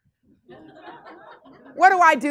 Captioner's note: class laughs